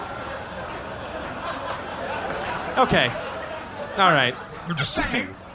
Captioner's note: audience laughter